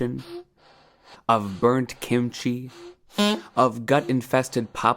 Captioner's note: horn beeps